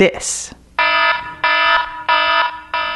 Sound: alarm ringing

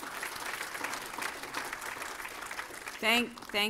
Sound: applause

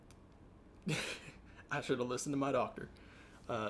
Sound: chuckle

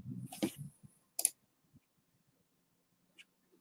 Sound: mouse clicking

